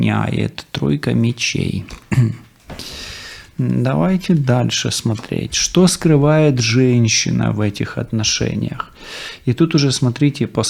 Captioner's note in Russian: откашливается